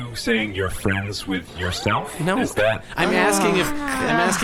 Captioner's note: Dar sighs in frustration